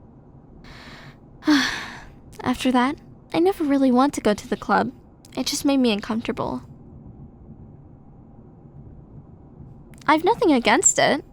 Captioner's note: sigh